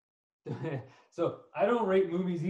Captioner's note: chuckles